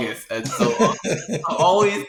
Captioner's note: both laughing